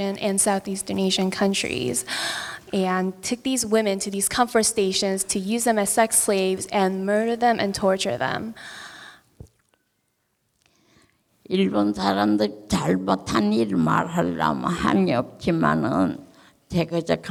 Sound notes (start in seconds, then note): 11.8 speaking in foreign language